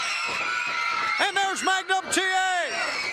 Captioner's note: crowd cheering